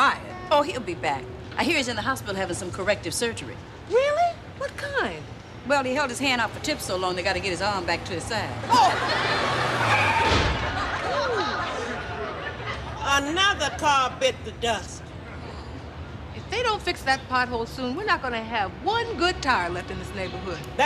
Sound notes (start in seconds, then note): 9.6 car breaks screeching; 10.9 car tire pops